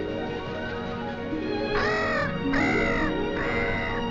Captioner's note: dramatic music; bird cawing